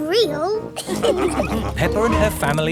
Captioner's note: all laughing